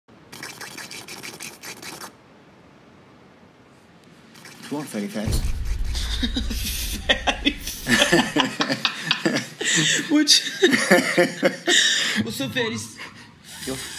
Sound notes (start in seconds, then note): 0.6 bubbling, inhaling; 7.1 both laugh; 7.8 female laughs